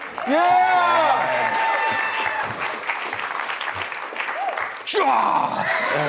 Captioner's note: audience claps and cheers; grunts